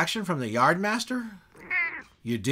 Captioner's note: meow